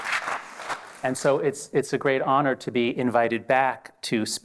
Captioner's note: applause